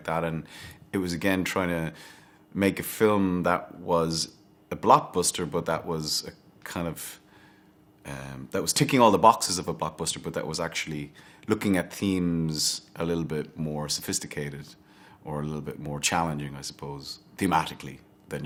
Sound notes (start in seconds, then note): none